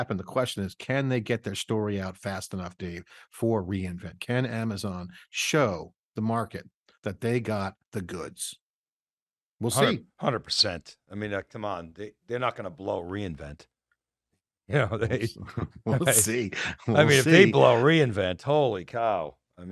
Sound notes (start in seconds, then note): 14.8 chuckles